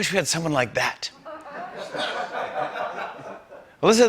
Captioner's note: laughter